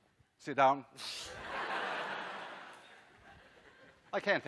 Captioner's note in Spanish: risas clase